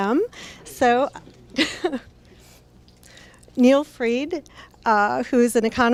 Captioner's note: laughs